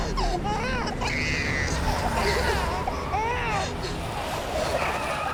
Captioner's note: baby crying and screaming; Henrietta crying; car tires screeching